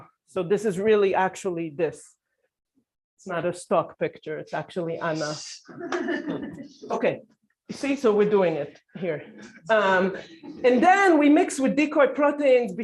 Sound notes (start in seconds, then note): 5.7 laughter